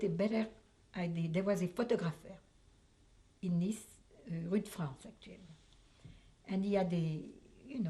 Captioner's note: french